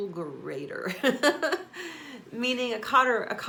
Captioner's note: laughs